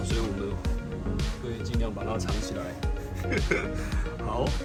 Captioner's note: laughs~~